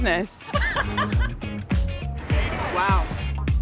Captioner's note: laughter